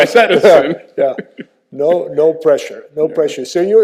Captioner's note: both laughing